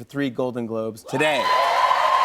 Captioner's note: cheers and applause